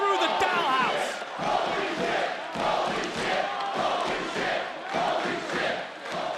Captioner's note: crowd chanting "holy shit"